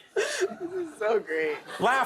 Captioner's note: laughter